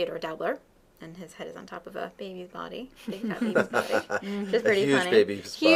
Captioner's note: laughing